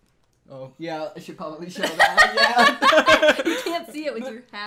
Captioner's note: laughter